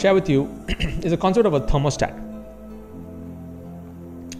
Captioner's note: clears throat